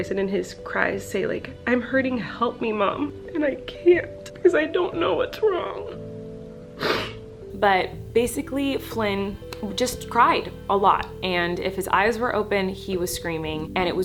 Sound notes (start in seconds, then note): 6.8 sniffles